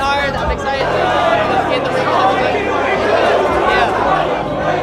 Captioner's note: shouting